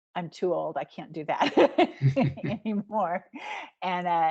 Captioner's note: giggling